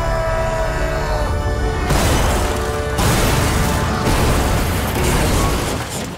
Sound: screaming; thudding

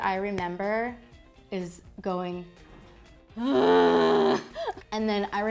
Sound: loud groans

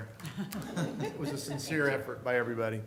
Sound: laughter

